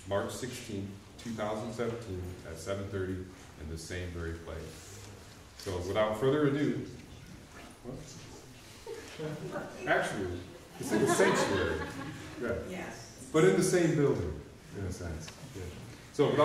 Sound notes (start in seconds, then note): 8.7 audience chuckling